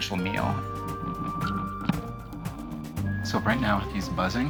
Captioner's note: thump, buzzing